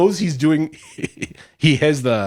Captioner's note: laughs